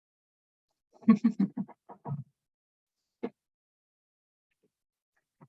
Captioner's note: laughing